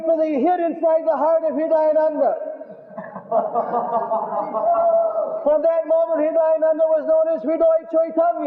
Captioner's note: Devotees laugh and say Haribol